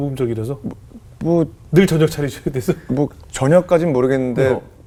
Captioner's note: laughing